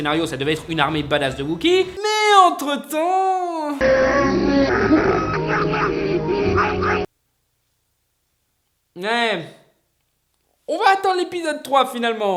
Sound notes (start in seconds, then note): 3.7 grunting in wooki